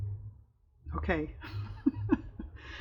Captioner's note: laughs